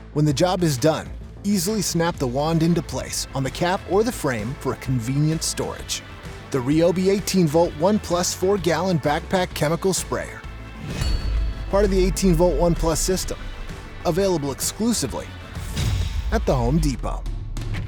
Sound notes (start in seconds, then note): 10.8 metal clanging; 17.6 upbeat rock music